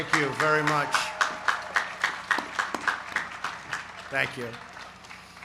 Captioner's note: applause